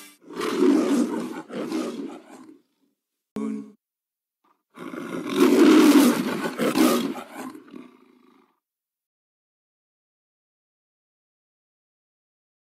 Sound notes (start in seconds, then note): 0.2 Leo the Lion roaring; 4.7 Leo the Lion roars; 9.4 silence